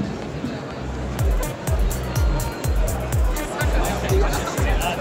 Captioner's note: crowd murmuring